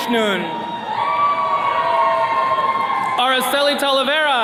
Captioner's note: attendees cheering